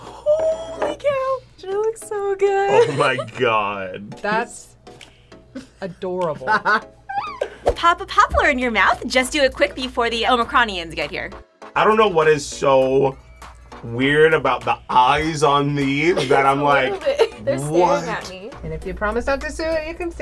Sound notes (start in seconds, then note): 2.7 laughs; 6.3 laughs; 15.9 laughs